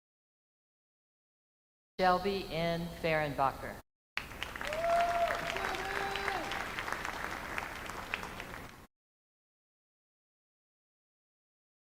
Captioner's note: names being called